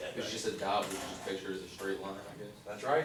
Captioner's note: voiceover